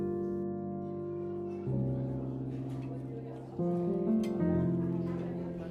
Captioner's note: gentle music; patrons chattering